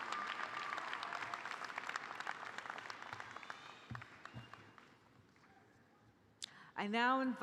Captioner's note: applause